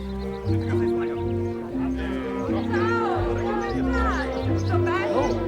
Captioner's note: people chattering